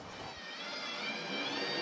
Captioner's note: high whirring noise